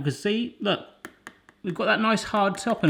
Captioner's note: tapping